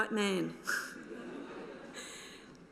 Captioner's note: laughter